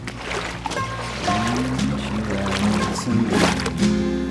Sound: water splashing

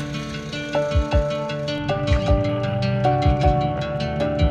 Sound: bright music; engine whirring

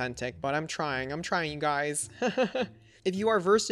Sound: laughs

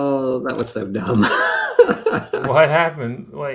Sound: laughs

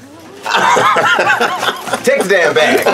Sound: laughs

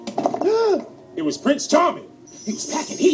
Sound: donkey gasps

